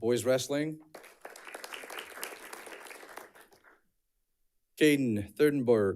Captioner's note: audience clapping